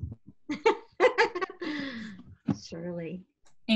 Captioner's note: Amy laughing